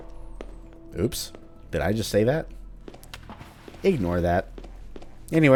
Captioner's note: sarcastically